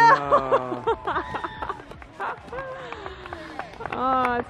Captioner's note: laughter